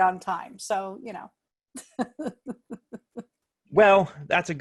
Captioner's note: laughter